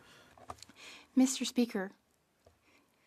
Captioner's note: speaking French